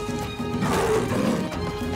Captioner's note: roars